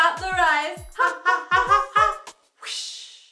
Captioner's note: swish